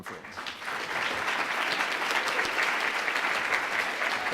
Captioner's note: audience applause